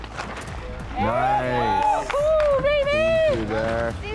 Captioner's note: all cheer